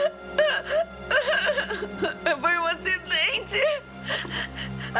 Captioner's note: crying